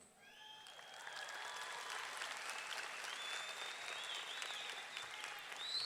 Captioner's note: audience cheering; audience clapping